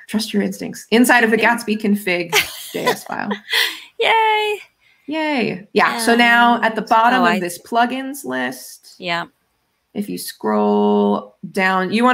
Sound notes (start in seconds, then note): 2.4 laughs